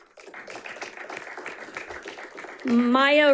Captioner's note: audience applauding